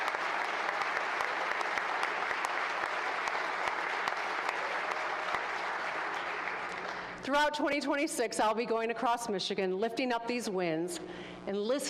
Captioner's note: applause